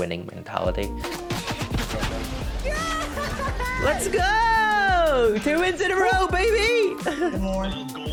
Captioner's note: in game gunfire